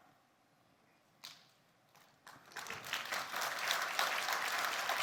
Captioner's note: attendees clapping